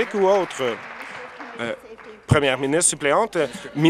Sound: applause

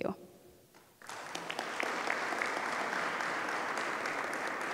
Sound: audience applause

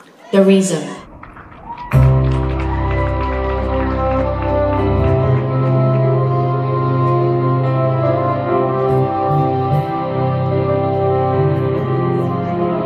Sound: applause

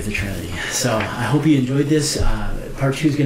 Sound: paper rustling

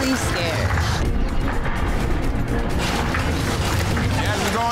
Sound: urgent music; water splashing

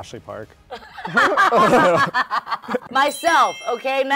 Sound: Sherry laughing

